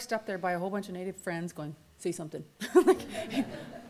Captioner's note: laughs